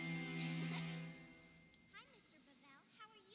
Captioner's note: giggling